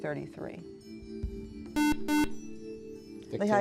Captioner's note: buzzer